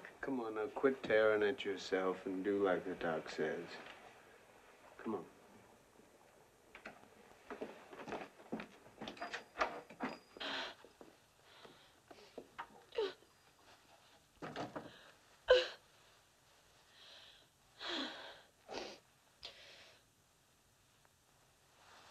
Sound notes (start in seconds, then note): 10.2 gasps; 12.8 groaning; 17.8 exhales